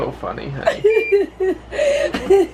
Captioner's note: laughing